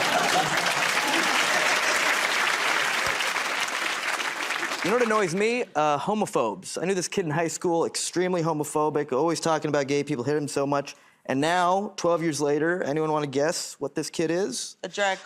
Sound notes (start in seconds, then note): 0.0 applause